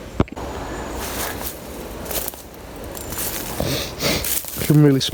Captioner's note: leaves rustling